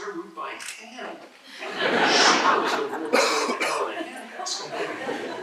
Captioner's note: laughter